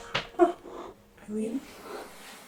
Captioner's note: Eileen gasps